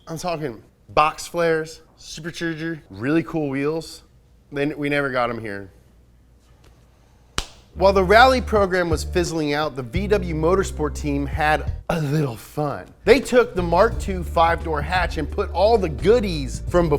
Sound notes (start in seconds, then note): 7.3 slaps